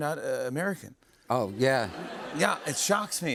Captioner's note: laughter